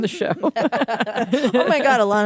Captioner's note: laughter